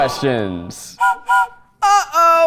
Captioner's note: train whistle blowing